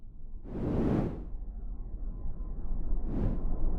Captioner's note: whooshing